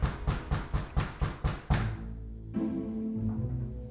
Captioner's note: fist pounding; playful suspenseful music